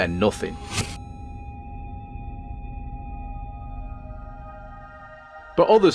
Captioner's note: flatline sound